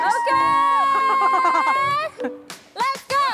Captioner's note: cheering teammates